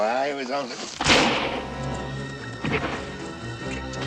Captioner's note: gunshot